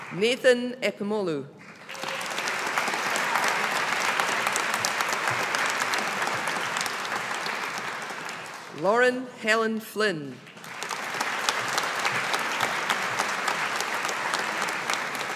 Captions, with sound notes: Nathan Epemolu. (AUDIENCE APPLAUDING) Lauren Helen Flynn. (AUDIENCE APPLAUDING)